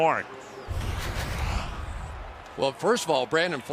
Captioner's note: pa announcement